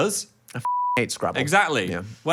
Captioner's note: beep